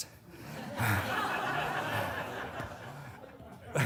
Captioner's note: audience laughing